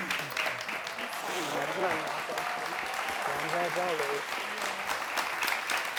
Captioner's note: audience clapping